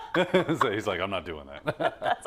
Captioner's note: laugh